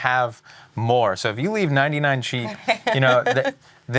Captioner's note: laughing